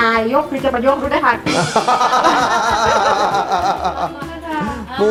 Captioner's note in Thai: หัวเราะ